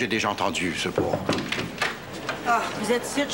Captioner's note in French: Toc toc toc